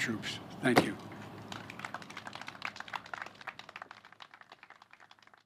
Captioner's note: applause